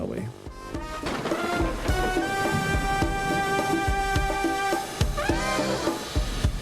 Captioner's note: music and occasional thunderclaps